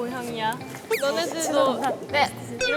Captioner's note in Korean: 쑥덕 쑥덕 쑥덕